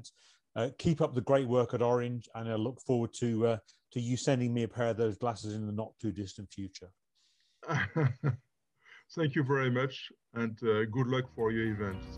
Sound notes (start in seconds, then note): 7.6 laughter